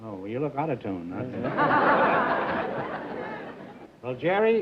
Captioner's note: laughter